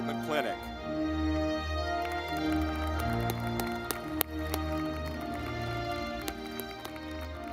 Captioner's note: audience clapping